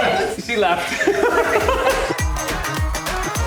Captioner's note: laughs; upbeat music